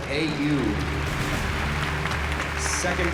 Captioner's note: applause